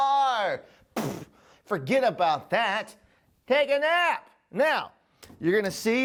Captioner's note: blows a Raspberry